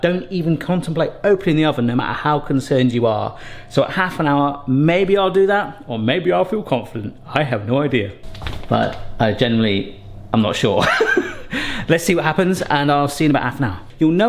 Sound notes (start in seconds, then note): 10.8 laughs